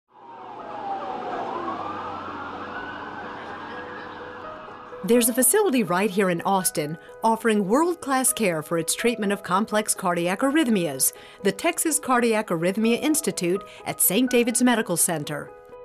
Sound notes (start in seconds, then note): 0.1 sirens wailing; 1.9 gentle music